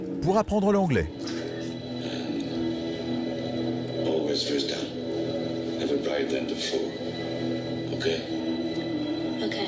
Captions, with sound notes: (dark foreboding music) - All this wisdom, everybody (speaks faintly). Okay?